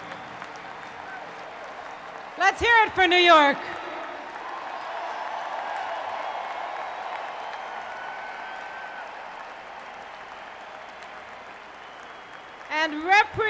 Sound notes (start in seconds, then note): 9.0 applause from crowd